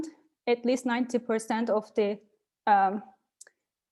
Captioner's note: none